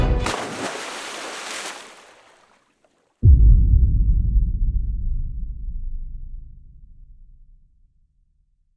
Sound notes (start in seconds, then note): 0.0 water splashing; 3.2 distant booming